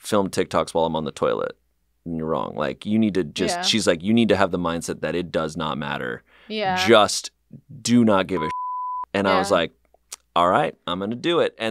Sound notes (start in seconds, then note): 8.3 beep